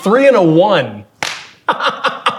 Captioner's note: slaps leg; chuckling; laughing